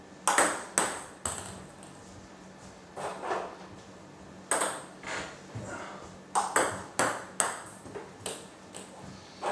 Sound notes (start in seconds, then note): 3.4 ball ping pong hitting continues